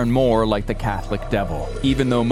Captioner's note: devil growls